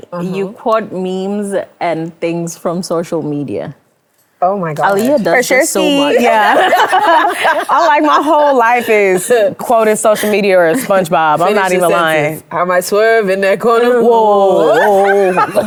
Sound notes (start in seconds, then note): 6.4 everyone laughs